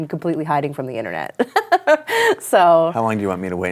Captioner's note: laughs